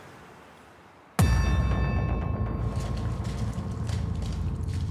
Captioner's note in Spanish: ruido al pisar agua